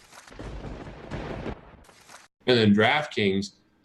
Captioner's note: lightning strike